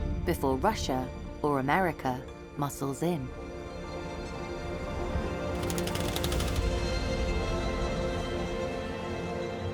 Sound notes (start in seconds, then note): 3.2 tense energetic music continues; 5.6 text pattering